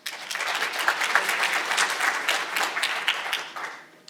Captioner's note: audience applauding